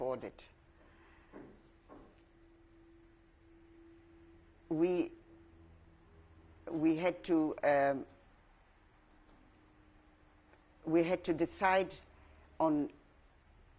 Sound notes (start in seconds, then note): 7.3 pauses for 3 seconds